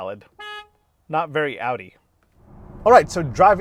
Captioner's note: horn honking